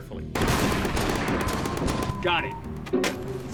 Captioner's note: guns firing